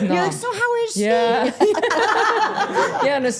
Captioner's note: everyone laughing